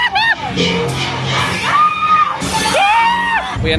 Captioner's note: screaming; spooky music; guest screaming; screaming